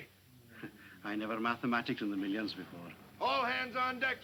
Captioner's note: chuckles